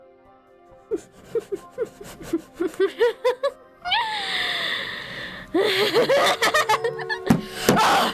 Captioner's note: ROSE laughs manically